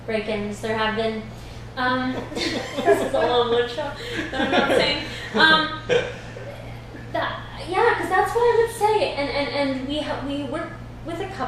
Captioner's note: laughs